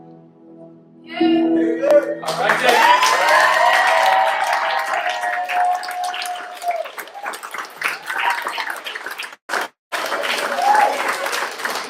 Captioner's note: applause